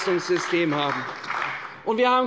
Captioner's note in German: Beifall bei der CDU und dem BÜNDNIS 90/DIE GRÜNEN